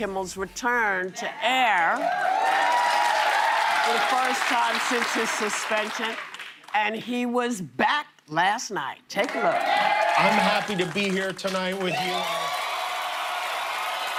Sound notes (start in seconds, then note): 4.1 cheers and applause; 11.9 cheers and applause